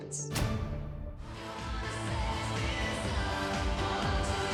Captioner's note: hands clap